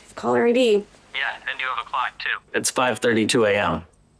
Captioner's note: on phone